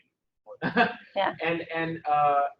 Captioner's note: laughs